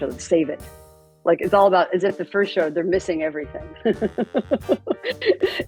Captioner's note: laughs